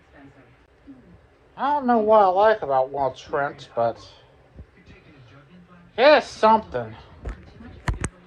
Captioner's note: slurred